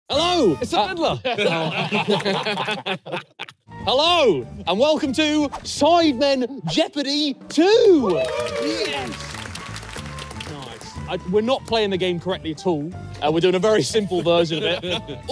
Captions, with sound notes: - Hello! - It's The Fiddler. [all laughing] - Hello and welcome to "Sidemen Jeopardy 2." [all clapping] Yes. - Nice. - We're not playing the game correctly at all. We're doing a very simple version of it.